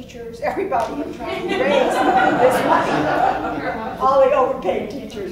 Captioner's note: laughs